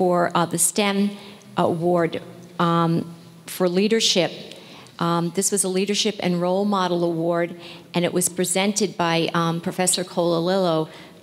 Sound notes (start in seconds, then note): none